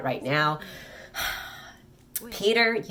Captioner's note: 𝘴𝘪𝘨𝘩